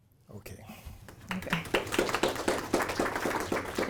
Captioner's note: audience clapping